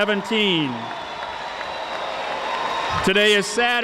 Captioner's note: audience applauding